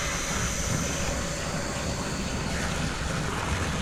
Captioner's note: none